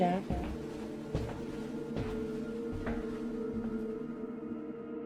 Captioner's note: shoes thudding